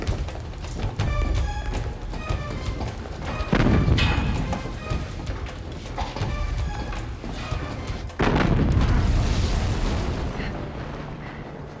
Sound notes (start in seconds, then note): 9.9 gasps